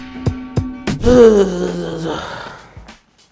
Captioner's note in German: Stöhnen